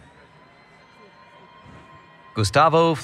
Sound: cheering

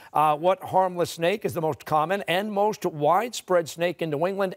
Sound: none

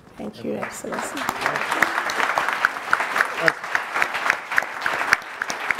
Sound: audience applauding

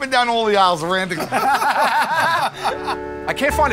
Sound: laughter

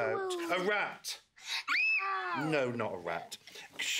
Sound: screams

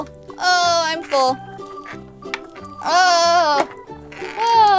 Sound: whimpering

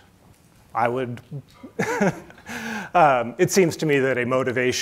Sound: chuckles

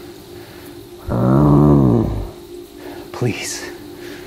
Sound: Bigfoot growls

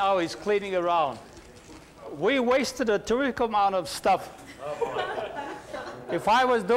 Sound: embarrassed laughter

